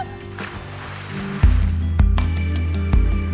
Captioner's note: water splashing; gentle electronic music